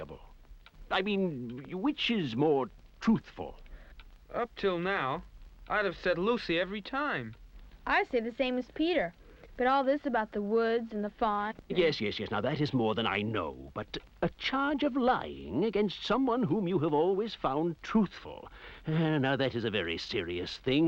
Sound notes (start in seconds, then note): none